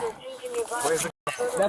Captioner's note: radio chatter